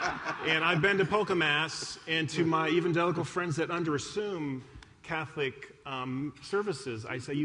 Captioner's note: applause